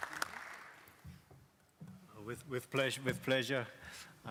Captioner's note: applause